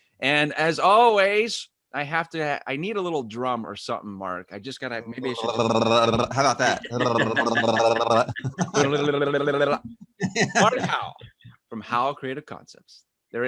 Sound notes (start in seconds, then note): 5.7 imitates drum rolls; 8.6 chuckles; 9.4 imitates drum rolls